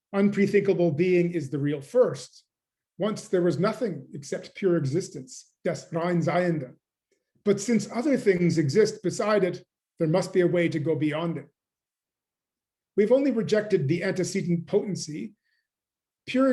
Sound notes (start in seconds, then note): 6.5 german